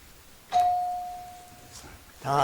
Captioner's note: bell dings